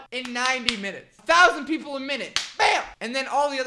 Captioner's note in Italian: Battito di mani aggressivo